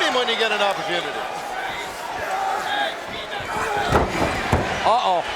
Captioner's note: audience cheering